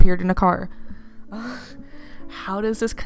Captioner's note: wheeze